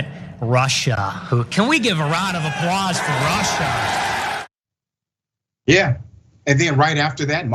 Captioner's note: applause